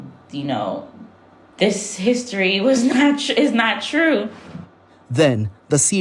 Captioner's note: laughs